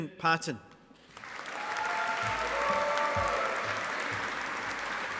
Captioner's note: audience applauding